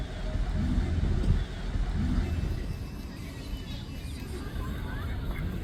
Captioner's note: ambient park sounds and quacking ducks